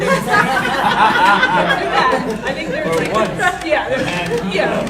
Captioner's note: laughing drowns out speakers; audience laughing